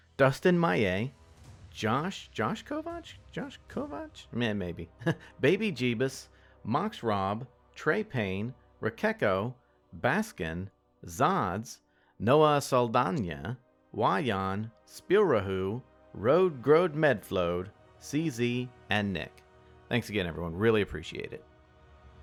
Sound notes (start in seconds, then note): 4.9 chuckles